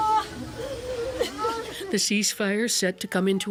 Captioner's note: crying